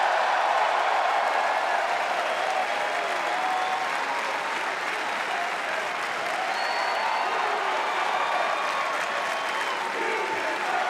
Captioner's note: crowd chatter